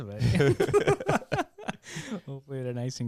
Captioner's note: laughing